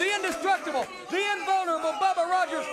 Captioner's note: crowd cheering